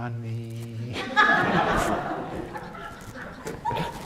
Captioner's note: audience laughs